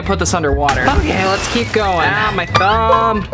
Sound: water splashing

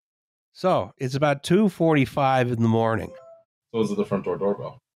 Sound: brief, pleasant electronic tones

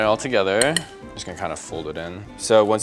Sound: whisk taps the glass

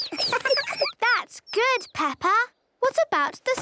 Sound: tweets

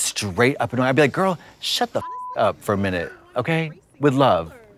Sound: beep

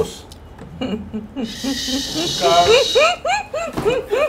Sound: laughing out loud

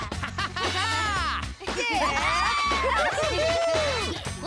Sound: all laughing; cheering

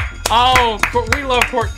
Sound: claps

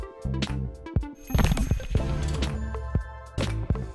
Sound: bicycle Bell

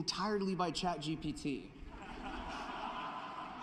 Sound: laughter

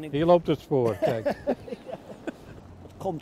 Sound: laughter

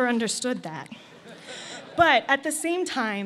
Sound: laughter

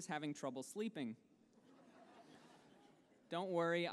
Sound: laughter

